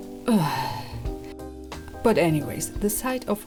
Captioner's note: sighs